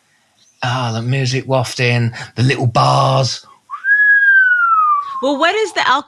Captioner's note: whistling